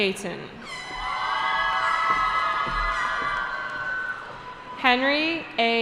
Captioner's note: cheering